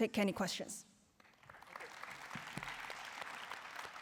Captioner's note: applause